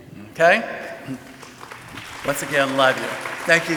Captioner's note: audience applauding